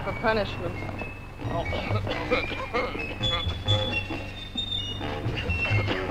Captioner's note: General Tostada coughing